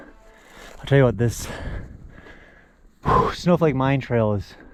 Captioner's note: gasping